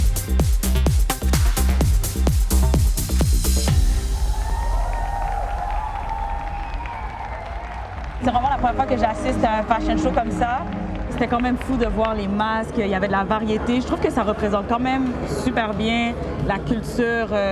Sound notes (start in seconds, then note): 0.0 rhythmic music; 4.0 cheers; 4.4 applause